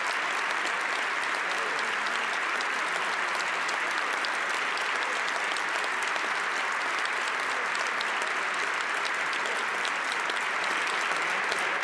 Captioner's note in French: applaudissements